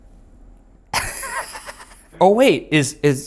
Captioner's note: laughing